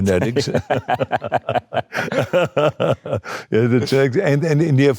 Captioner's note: both laughing